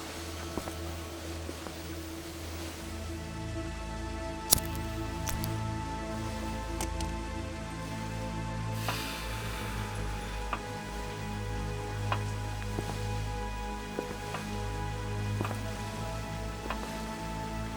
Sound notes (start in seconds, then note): 4.4 melancholy synth music; 4.5 lighter clicks